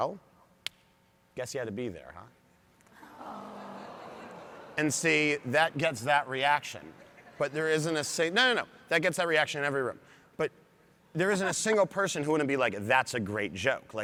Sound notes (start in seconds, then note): 3.0 audience gasps